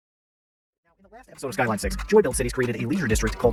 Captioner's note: high speed playback voice